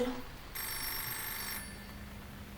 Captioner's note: phone Ringing